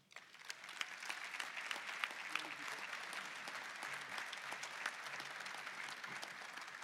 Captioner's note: applause